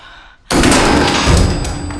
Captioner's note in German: schüsse